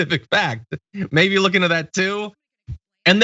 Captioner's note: laugh